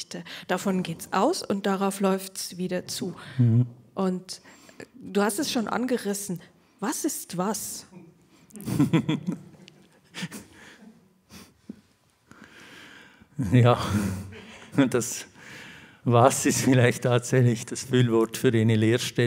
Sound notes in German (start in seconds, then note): 8.5 lacht